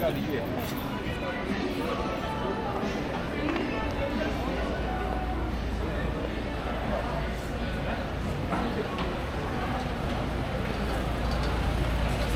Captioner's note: people chattering